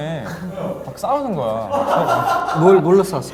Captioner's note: laughing